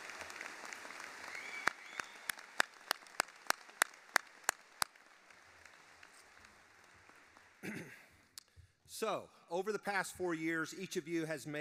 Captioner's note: applause